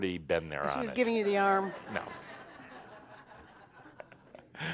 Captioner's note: some laughter